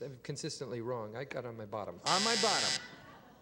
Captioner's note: buzzer